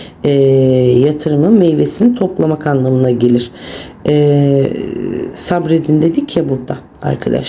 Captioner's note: grumbling